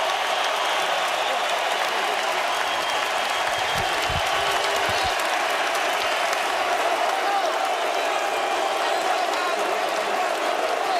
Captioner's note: cheers and applause